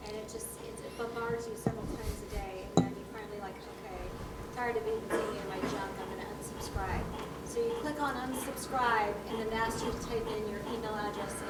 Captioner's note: speaking off microphone